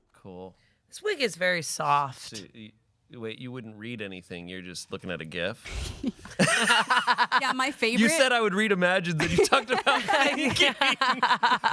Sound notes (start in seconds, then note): 6.1 laugh